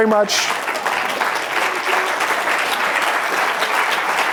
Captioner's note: applause